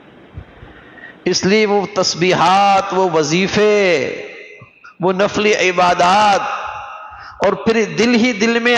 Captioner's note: sighing